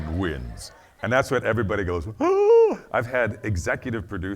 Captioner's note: gasps